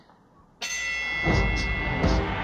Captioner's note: fight bell ringing; crowd cheering